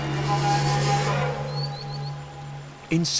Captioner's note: birdsong